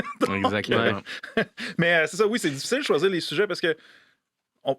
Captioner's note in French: rire